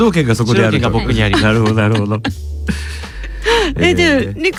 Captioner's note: laugh